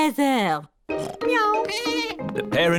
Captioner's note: snorts; meows; bleats